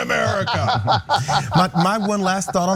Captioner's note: laugh